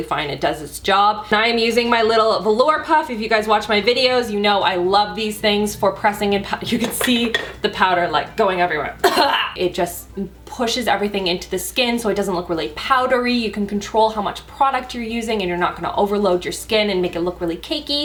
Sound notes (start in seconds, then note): 9.0 cough